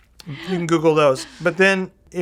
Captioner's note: laughing